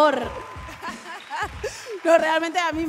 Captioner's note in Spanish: Aplausos